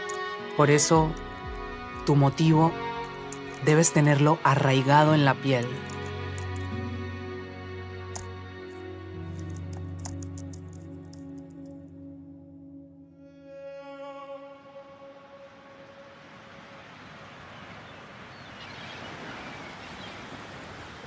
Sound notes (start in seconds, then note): 9.3 keys clicking; 15.8 waves crashing